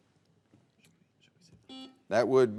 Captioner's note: players whispering; buzzer beeping